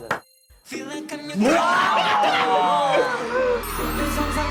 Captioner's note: scream